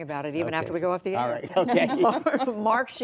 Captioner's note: laughter